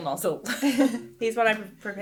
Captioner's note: laughing